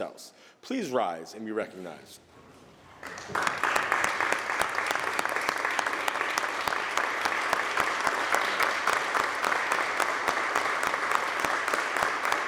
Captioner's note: applause